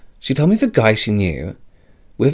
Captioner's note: gasp